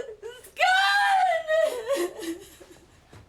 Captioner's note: cries